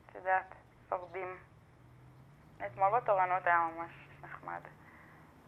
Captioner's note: speaking foreign language